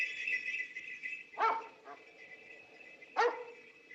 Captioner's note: barking Continues